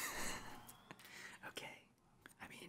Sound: laughing

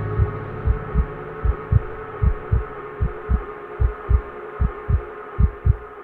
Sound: sound of heart

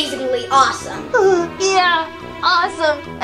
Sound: whimpering

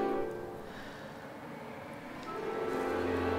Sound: sighs

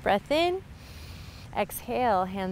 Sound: inhales

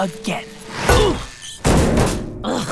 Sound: groaning

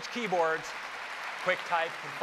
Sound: applause

